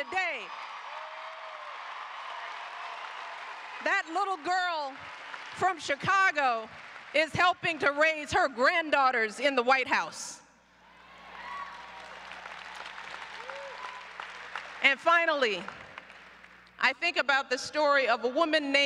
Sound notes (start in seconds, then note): 0.0 applause; 11.1 applause